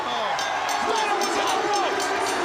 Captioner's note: bell ringing